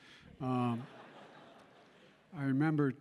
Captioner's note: laughter